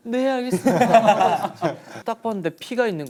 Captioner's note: laughing